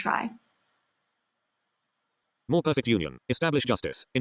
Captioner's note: computerized voice sped up